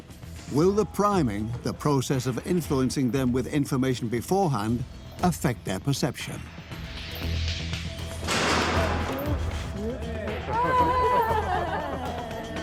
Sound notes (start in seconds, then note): 8.2 crash; 10.4 participants gasp and laugh